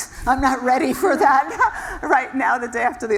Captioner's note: laugh